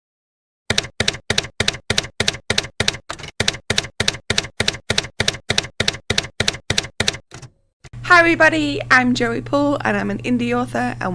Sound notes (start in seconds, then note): 0.7 typewriter keys clacking